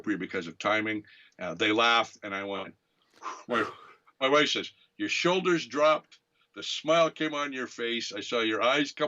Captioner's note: a sigh of relief